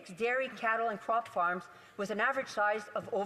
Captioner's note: speaking French